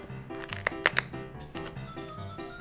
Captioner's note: snip!